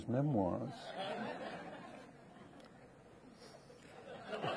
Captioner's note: audience laughing